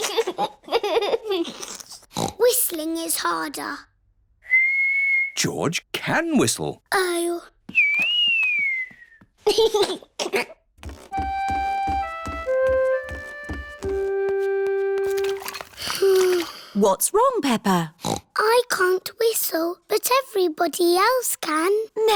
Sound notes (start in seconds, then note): 0.1 giggles; 2.1 snorts; 4.4 whistling; 7.8 whistling and giggling; 15.8 sighs; 18.0 snorts